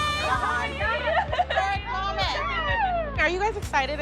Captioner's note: excited chatter